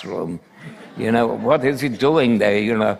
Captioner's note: laughter